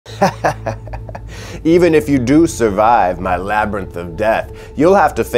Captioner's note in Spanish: Risas